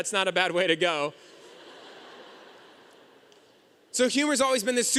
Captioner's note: audience laughing